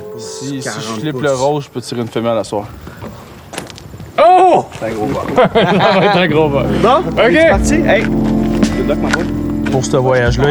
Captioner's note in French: rires